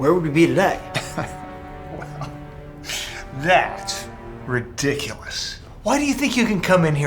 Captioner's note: laughs